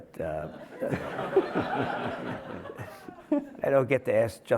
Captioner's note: everyone laughing